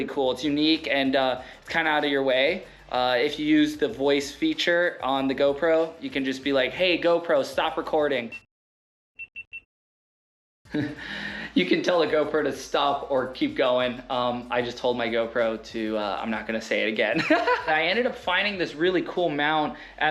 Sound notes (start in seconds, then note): 8.3 camera beeps; 10.7 chuckles; 17.2 laughs